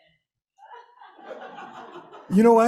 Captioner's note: laughter